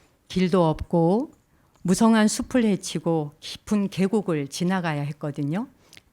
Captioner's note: speaking in Korean